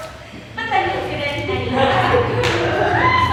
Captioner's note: audience laughs